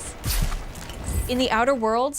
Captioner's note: tearing sound